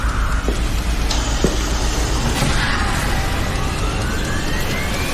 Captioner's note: Suierat de aer